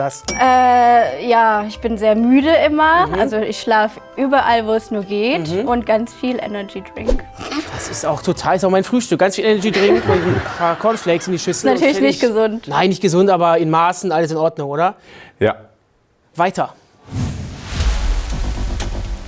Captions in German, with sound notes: Äh, ja, ich bin sehr müde immer. - Mhm. Also, ich schlafe überall, wo's nur geht. - Mhm. Und ganz viel Energydrink. (Belustigter Laut) Das ist auch mein Frühstück. Ganz viel Energydrink und Cornflakes in die Schüssel. Natürlich nicht gesund. - Nein, nicht gesund. Aber in Maßen alles in Ordnung, oder? - Ja. Weiter. (Spannungsvolle Musik)